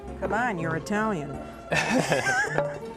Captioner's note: laughter